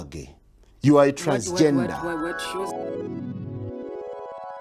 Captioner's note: audible confusion